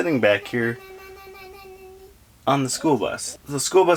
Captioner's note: babbling gleefully